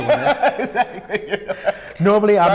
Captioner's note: laughs